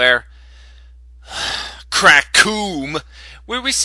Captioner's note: sigh